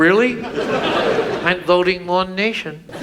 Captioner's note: audience laughs